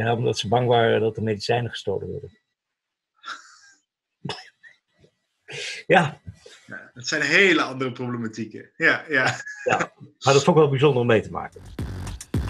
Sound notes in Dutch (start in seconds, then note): 3.6 gelach